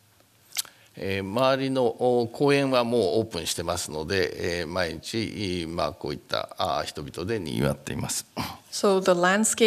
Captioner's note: speaking japanese